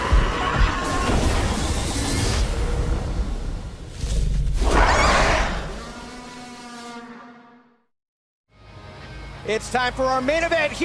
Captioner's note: screaming